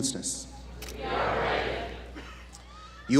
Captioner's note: audience chants "We are ready"